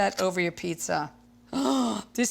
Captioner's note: gasps